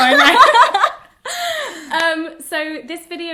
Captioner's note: Hannah laughs